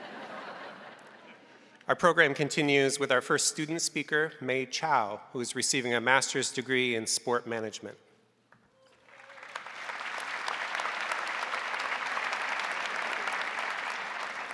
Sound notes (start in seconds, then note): 0.0 crowd laughing; 8.9 crowd applauding